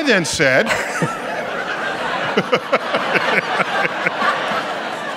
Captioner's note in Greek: γελια απο το κοινο